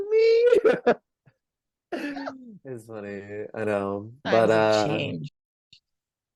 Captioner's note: both laugh